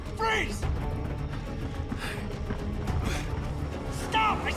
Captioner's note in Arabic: خطوات تجري